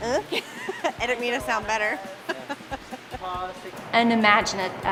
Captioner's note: laughing